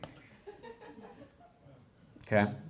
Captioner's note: laughter